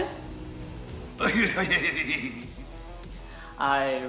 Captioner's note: cackling